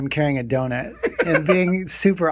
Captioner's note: laughing